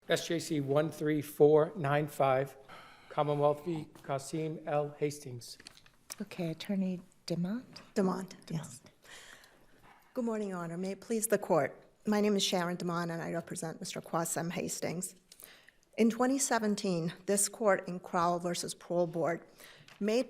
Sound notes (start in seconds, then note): 5.6 paper rustling